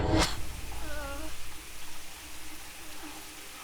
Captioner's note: groans